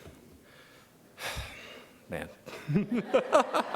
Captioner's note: sighs; laughs